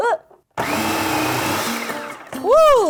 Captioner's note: whirring